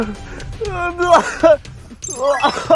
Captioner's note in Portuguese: Morrendo de rir